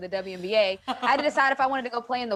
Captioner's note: laughs